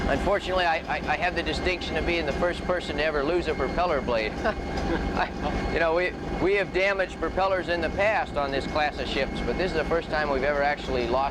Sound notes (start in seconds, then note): 4.4 chuckles